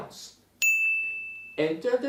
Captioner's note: bell rings